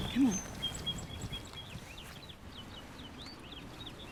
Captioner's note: birds chirping